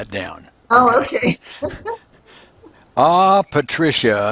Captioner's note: laughing